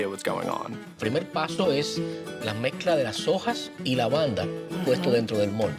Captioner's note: speaks Spanish